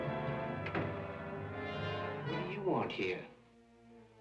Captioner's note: door clicks